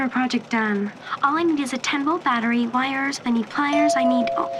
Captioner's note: doorbell rings